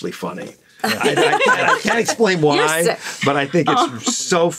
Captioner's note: laughs